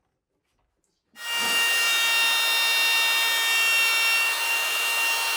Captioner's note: drill whirring